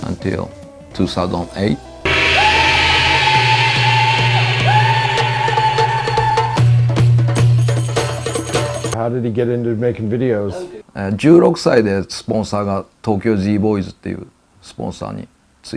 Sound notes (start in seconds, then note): 2.0 ululations; 6.7 drumbeats; 11.5 speaking foreign language